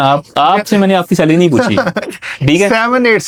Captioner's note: laughs